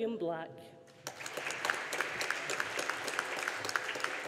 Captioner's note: audience applauding